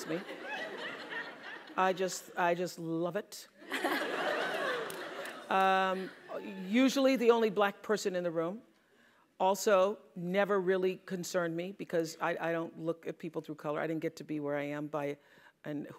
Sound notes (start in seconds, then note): 0.1 laughing; 3.7 laughing